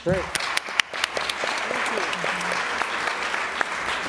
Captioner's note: applause